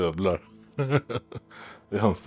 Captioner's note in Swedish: Skratt